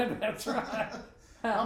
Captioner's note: laughing